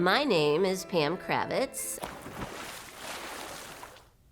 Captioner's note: water splashes